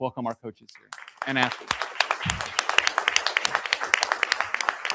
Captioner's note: audience applauding